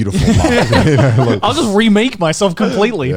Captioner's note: laughs